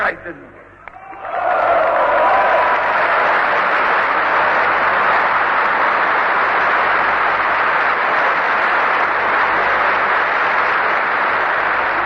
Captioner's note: applause